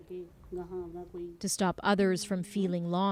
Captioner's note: speaking native language